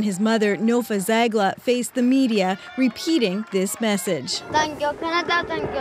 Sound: cheers and Applause

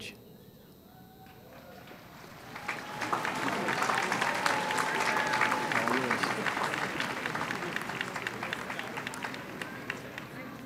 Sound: applause

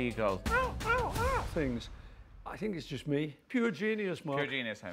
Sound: imitates seagull

